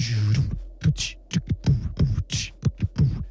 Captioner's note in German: Beatboxing